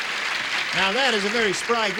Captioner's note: applause